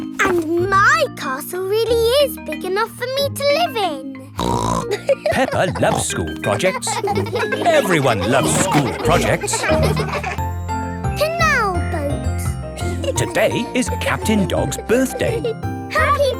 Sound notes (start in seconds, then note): 4.4 snorts and laughs; 7.3 children laughing